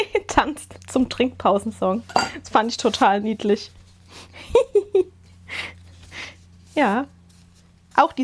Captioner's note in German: Gelächter